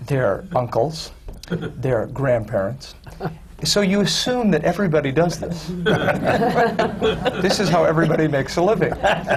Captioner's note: laughter